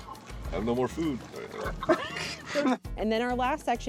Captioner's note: light laughter